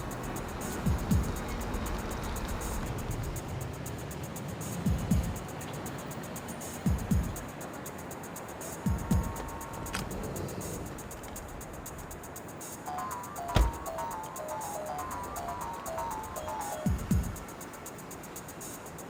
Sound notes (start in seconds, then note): 10.0 car door clicks; 13.4 car door bangs